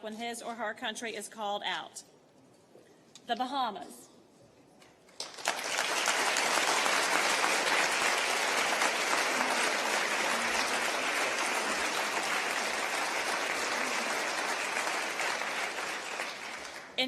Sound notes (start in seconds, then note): 9.0 applause